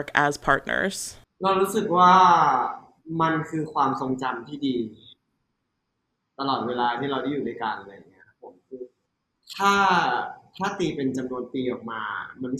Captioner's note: answering in Thai